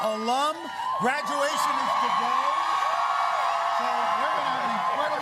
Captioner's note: cheers and applause